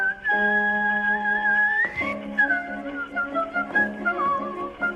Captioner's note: whistling